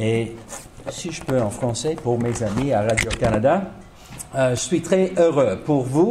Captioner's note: speaking in French